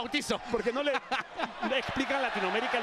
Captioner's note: laugh